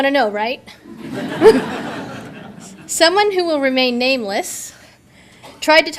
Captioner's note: audience laughter; chuckles